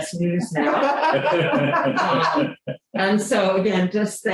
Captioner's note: laughter